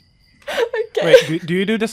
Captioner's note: laughing